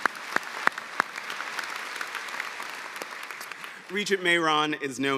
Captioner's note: applause